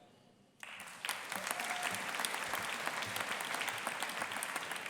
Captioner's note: audience applauding